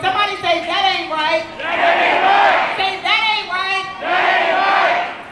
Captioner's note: crowd